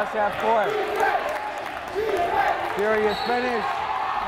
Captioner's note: crowd chanting defense